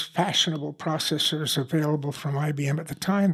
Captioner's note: none